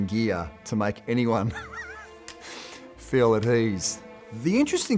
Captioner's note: chuckles